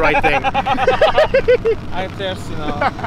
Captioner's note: laughing